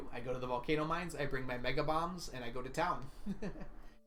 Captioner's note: laughs